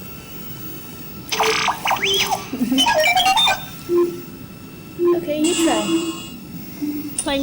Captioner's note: robot beeping